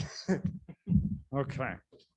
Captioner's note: laughing